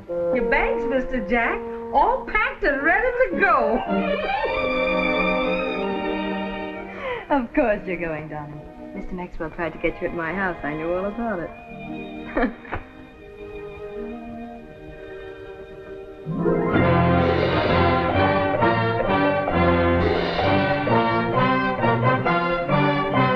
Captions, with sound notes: Your bags, Mr. Jack. All packed and ready to go. [ CHUCKLES - UPLIFTING MUSIC ] Of course you're going, Darling. Mr. Maxwell tried to catch you at my house. I knew all about it. [ CHUCKLES ] [ ORIENTAL MUSIC ]